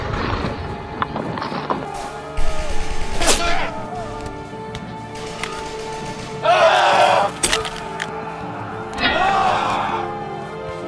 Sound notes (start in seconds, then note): 2.4 gunfire cracks; 3.2 man shouts; 5.6 gunshots booming; 6.4 men yelling; 7.7 flesh squelching